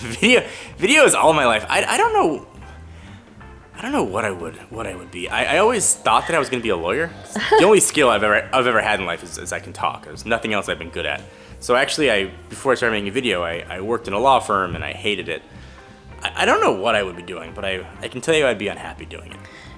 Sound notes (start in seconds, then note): 7.2 laughs